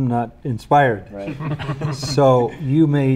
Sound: all laughing

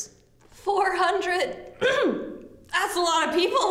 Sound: clears throat

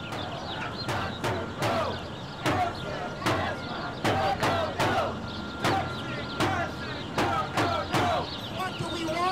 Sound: chanting

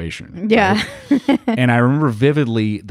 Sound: laughs

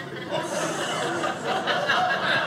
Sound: audience laughing

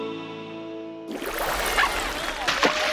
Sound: barking

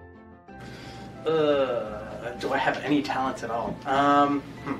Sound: noise of discomfort

